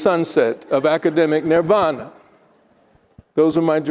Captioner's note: attendees laughing